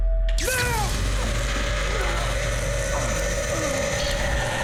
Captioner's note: Daniel grunting